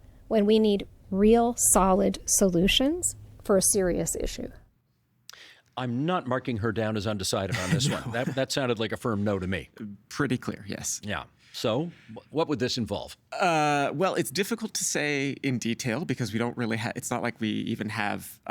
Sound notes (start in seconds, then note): 7.5 laughing